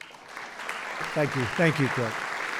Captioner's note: applause